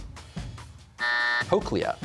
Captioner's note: buzzer sounds